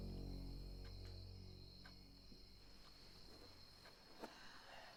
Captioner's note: insects chirping